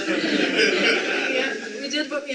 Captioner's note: audience laughter